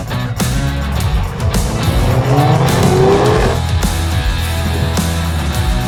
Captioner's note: accelerating